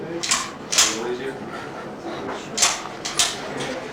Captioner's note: cocks gun